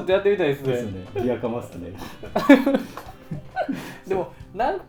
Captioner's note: laughs